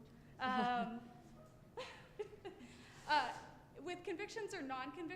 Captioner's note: chuckling